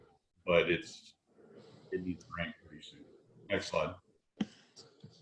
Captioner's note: audio is choppy